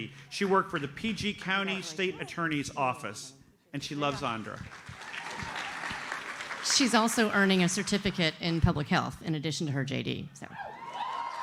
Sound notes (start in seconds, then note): 4.0 audience applauds; 10.7 audience cheers and applauds